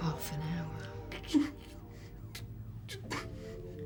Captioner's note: whimpering